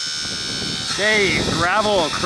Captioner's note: excavator buzzes